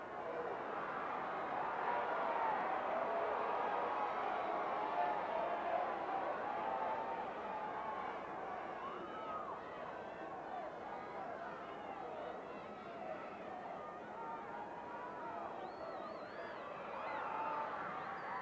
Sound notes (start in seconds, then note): 7.2 audience cheering continues